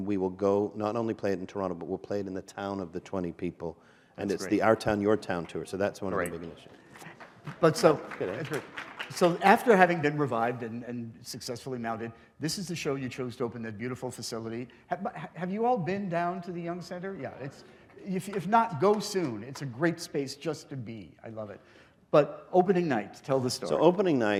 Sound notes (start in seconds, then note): 6.8 applause